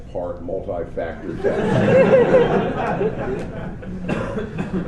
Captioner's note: laughter